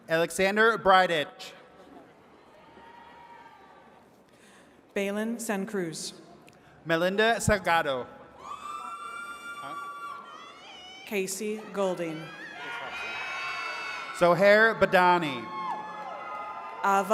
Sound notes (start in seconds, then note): 8.4 attendees cheering